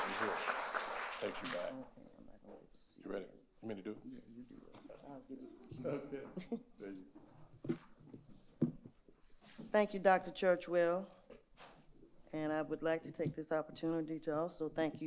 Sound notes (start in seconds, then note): 0.0 audience applauding; 1.2 quiet chatter as they change microphones